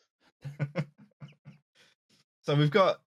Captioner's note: chuckles